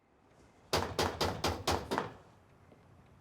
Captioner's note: knock on door